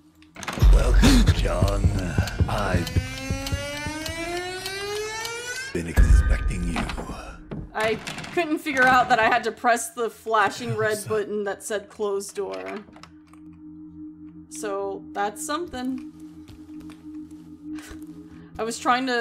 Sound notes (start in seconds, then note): 0.9 John Gasps; 2.2 clock Starts Ticking; 3.1 clock Ticking